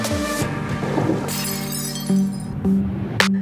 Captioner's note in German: klirr